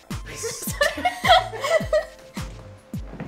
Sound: laughs

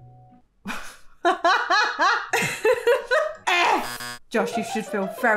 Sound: laughs; buzzer beeping

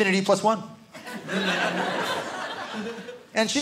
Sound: audience laughing

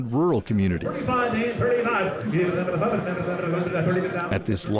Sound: auctioneer shouting

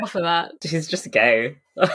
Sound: laughs

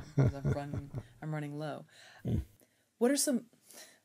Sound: laughs

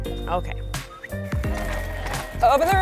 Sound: whistles

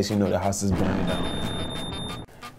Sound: smoke alarm beeps

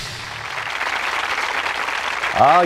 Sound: applause

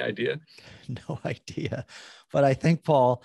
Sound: laughing

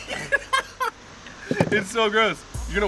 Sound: laughing

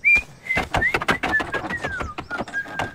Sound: whistling

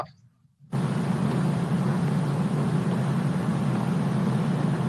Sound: car engine roars

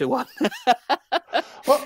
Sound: laughs

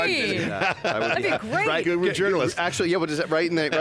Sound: laughs

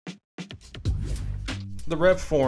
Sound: air whooshing

